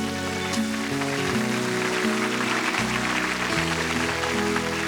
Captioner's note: applause